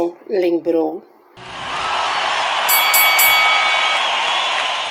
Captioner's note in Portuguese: Som de ringue